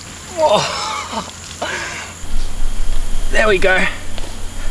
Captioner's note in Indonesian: laugh